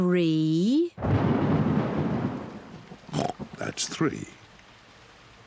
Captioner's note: thunder rumbles; oinks